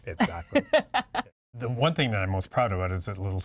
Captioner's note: laughing